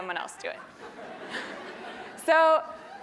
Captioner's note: laugh